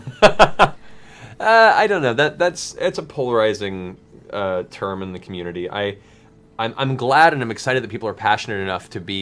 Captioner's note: laughs